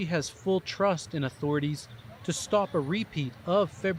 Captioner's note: speaking alternate language